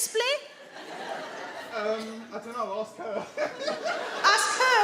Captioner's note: he laughs